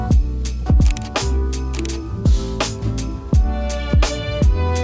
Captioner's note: camera snapping